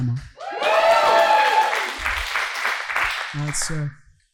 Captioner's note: audience cheering